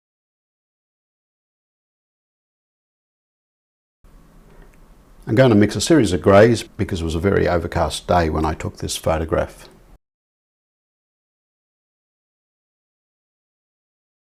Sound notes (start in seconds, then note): 4.0 silence; 9.6 silence